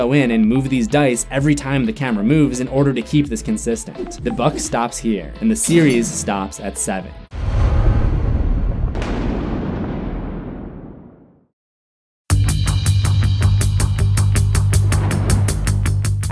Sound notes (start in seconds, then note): 7.3 thunder